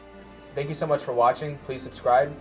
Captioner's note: voiceover